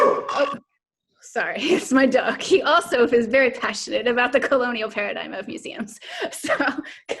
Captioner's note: dog barking